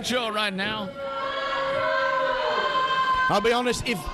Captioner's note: audience booing